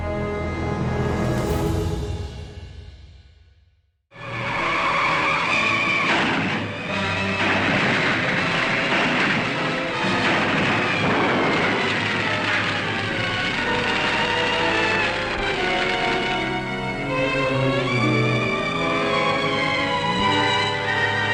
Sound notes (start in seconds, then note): 4.2 dramatic music; 4.2 tires squealing; 11.1 explosion booming; 17.2 discordant instrumental music